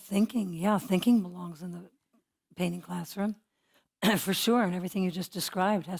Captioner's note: cough